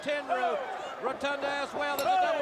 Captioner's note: crowd cheering